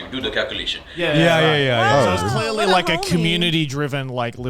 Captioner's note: men laugh